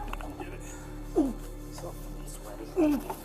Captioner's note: grunts